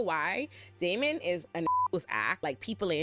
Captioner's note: beep